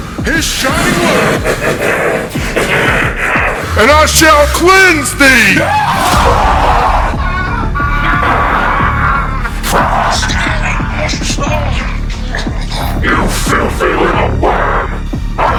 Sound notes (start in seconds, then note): 5.6 Larry yelling